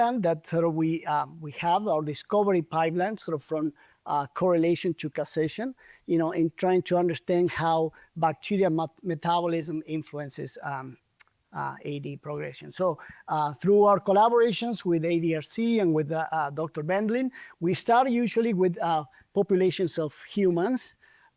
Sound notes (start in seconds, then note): none